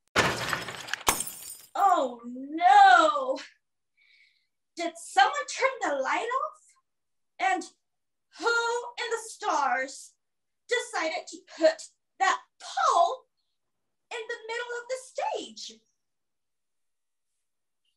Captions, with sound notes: (door thunks) (glass clatters) Oh, no! Did someone the light off? And who in the stars decided to put that pole in the middle of the stage?